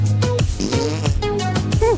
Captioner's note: flatulence noise